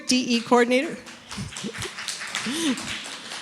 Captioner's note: applause; laughs